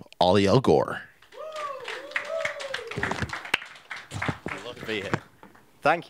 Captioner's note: audience applauding